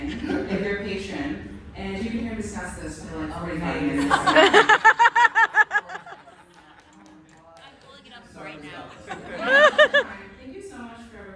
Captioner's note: laughter